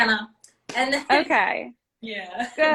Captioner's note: laughs